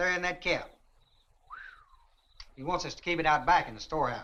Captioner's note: Chase whistles in surprise